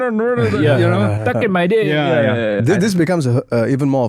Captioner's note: mumbles